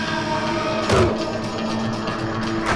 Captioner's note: grunts